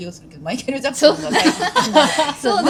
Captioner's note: laughs